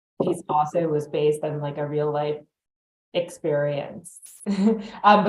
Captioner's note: chuckles